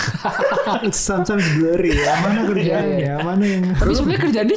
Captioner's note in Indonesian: tertawa